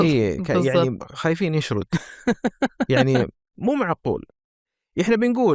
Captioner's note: laughter